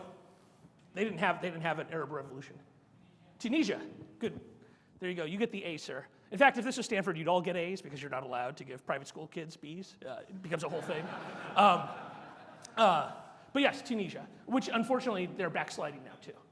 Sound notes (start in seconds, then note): 10.4 audience laughs